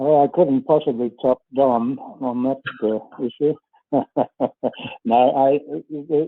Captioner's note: laughs